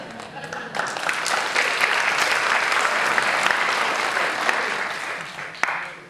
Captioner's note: applause; laughing